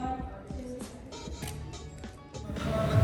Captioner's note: camera clicks